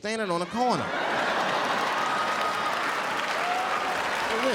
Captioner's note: audience laughs